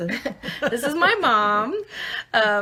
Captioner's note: laughing